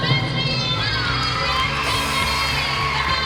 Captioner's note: cheering